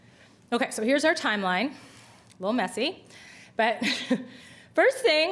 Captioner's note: chuckles